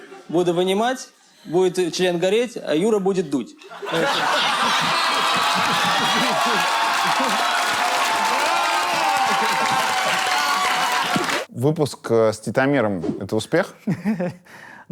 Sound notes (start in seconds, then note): 3.8 all laughing, audience cheering; 13.9 chuckles